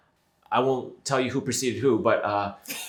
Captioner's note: laughs